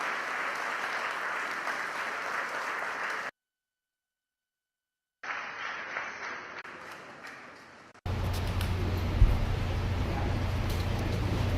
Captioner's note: applause